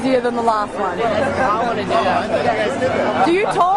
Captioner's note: chatter